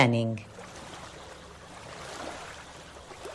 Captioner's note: waves lapping